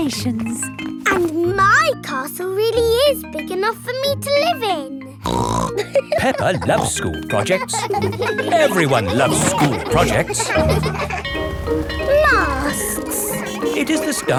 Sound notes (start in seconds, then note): 5.4 snorts and laughs; 8.2 children laughing; 11.2 bell ringing